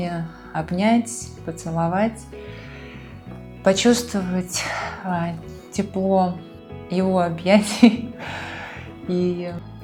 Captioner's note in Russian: вздыхает